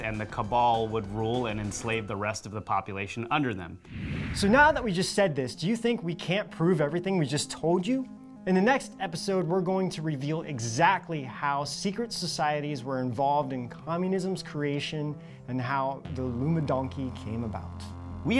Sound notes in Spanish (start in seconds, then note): 3.8 zumbido